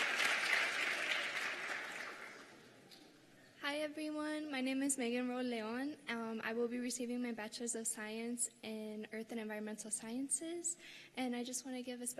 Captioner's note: cheers and applause